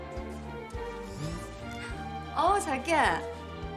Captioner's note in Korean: 휴대전화 진동음